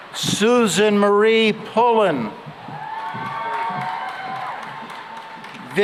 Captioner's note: cheering and applause